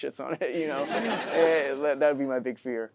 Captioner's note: audience laughing